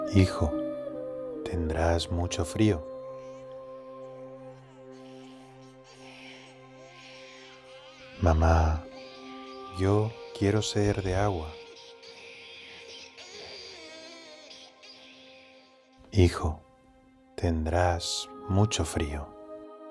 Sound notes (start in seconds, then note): 4.3 Bebé llorando; 12.1 Bebé llorando